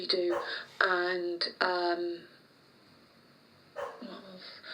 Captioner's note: distant dog barks